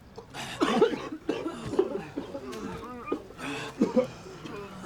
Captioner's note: cough cough